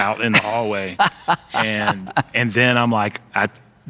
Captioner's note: laughing